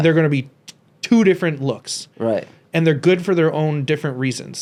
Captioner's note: none